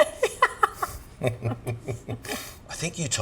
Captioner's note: laughs